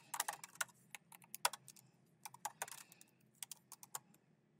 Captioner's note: keyboard clacking